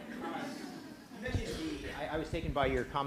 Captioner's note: laughter